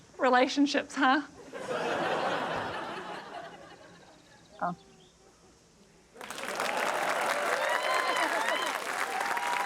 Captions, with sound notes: Relationships, huh? (AUDIENCE LAUGHS) Oh. (APPLAUSE, CHEERING)